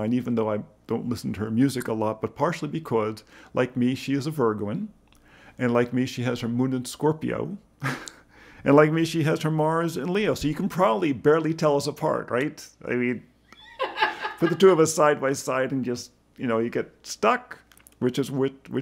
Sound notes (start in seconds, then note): 8.0 laughs; 13.5 woman laughs